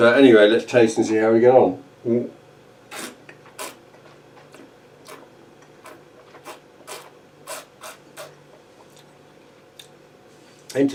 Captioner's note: slurping